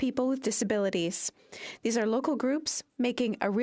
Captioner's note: speaking in French